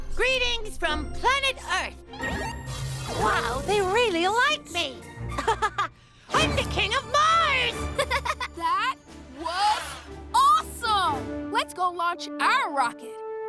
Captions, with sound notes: Greetings from planet earth. Wow, they really like me. (laughs) I'm the king of Mars! (Cavu laughs) - That was awesome, let's go launch our rocket.